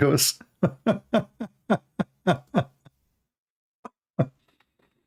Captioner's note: Ketawa